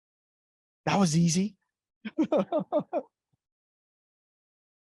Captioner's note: chuckles